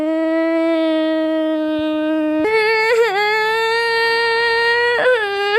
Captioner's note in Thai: ร้องไห้